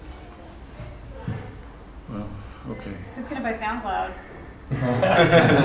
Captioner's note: laughter